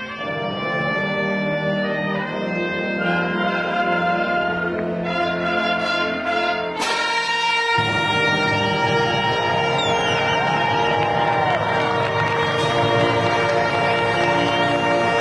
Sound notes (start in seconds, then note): 10.5 audience cheering; 12.1 audience clapping